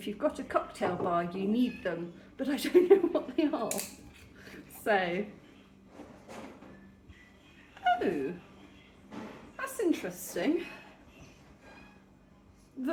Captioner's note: sniffing